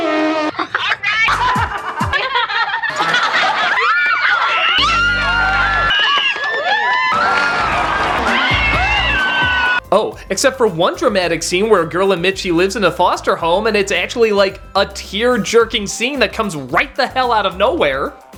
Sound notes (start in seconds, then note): 0.0 fart noise; 0.5 giggling; 4.8 screeching